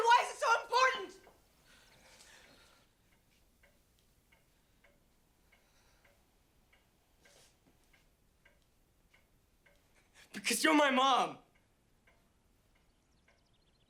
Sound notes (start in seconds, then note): 3.4 clock ticking